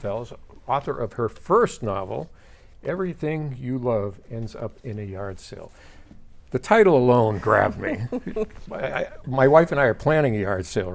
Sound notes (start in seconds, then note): 7.7 laughing